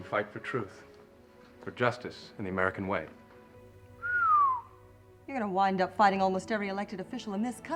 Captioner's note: whistling